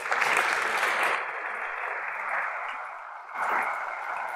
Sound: audience applauds

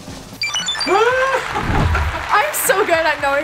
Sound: high-pitched beeps; laughs

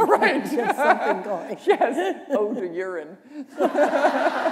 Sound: laughter

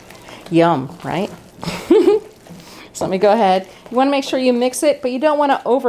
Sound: laughter

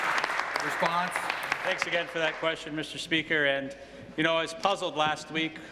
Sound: applause

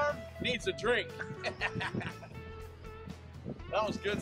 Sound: laughs

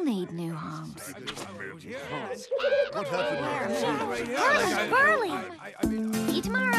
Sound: chattering

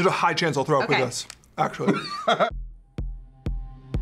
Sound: laughs

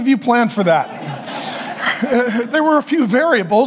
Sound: congregation laughing

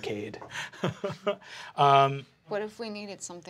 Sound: laughing

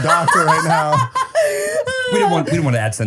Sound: laughing

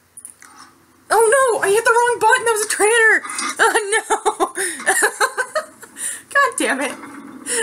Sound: laughs

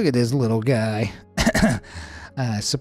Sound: throat clearing

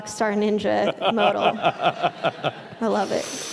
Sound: laughing

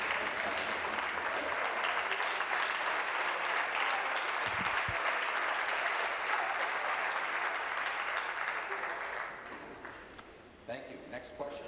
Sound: applause

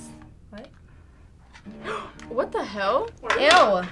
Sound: gasps

